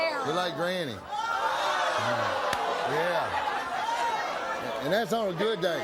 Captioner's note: audience jeering